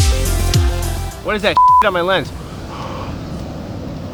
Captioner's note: beep